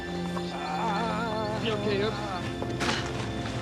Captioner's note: moans